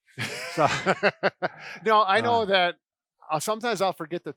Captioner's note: laughs